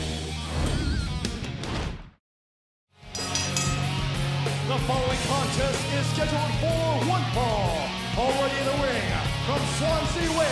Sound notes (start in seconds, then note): 3.1 bell ringing